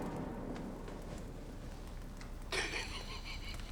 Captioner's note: laughs